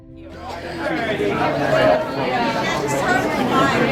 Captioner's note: crowd chattering